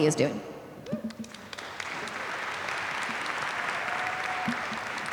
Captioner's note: applause